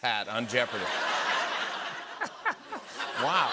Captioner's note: laughter